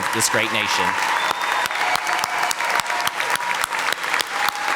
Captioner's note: audience applauding